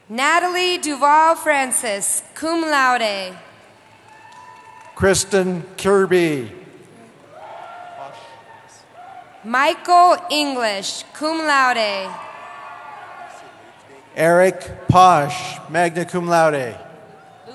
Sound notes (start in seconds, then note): 3.7 cheering; 7.1 cheering; 11.9 cheering; 17.0 cheering